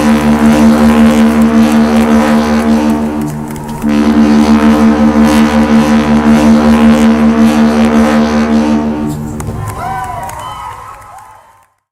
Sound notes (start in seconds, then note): 9.4 cheers